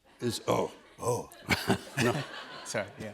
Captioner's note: laughs